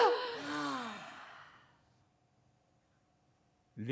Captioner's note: all voices stop